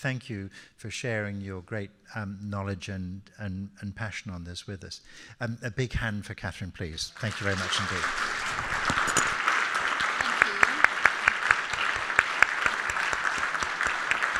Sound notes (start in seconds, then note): 7.1 audience applauding